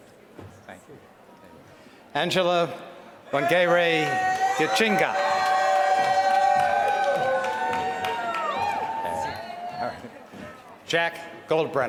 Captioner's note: applause